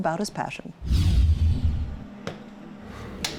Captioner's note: screen whooshes; gentle music